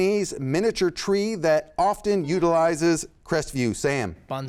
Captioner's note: buzzer sounds